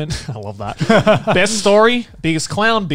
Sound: laughs

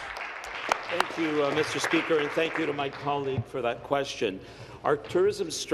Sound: applause

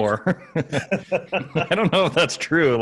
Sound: all laughing

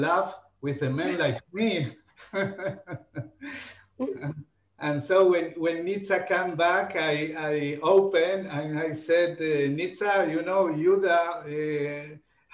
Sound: laughing

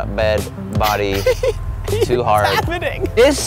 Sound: laughs

